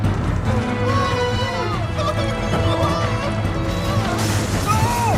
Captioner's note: screams and commotion